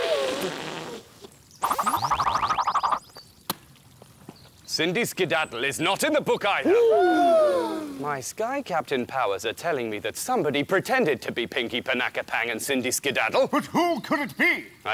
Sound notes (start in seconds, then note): 7.5 gasp!